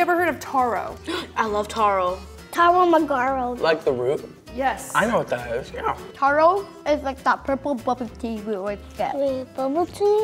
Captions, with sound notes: (girl gasps) - I love taro. - Taro muh-ga-ro. - Like the root? - I know what that is, yeah. - Taro is like that purple bubble tea we always get. - Wait, bubble tea?